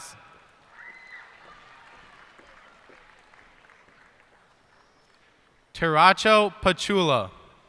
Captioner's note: cheers and applause